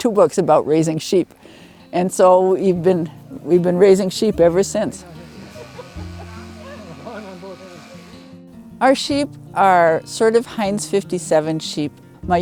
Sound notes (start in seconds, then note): 4.3 shearer buzzing; 4.8 attendees laughing; 6.2 bright music